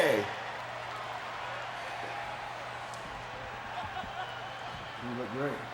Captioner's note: audience laughing